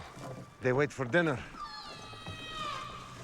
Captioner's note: loud squawk